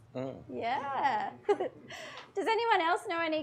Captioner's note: chuckles